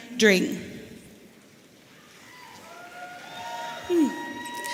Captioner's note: audience cheering